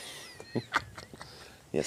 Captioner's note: laughing